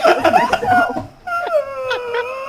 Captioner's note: howling